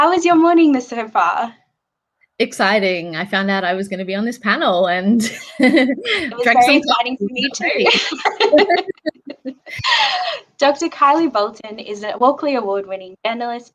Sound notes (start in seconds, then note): 5.4 chuckles